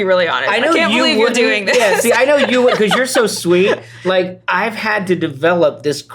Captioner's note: laughter